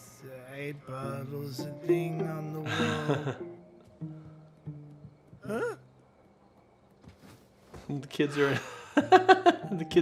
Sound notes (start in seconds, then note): 2.7 chuckles; 7.0 blanket rustles; 8.3 laughs